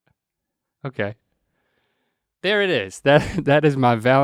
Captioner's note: chuckles